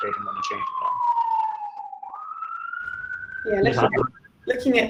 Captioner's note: siren alarm ringing